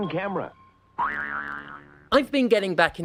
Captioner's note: boing